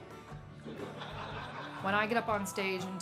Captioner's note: laughing